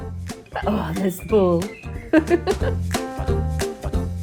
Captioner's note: laughing